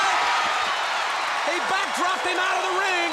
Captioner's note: crowd cheering